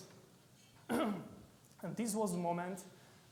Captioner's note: clearing his throat